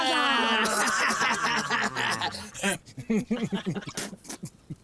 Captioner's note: group laughs